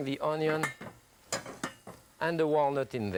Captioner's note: skillet clatters